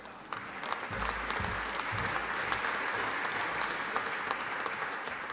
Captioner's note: audience applauding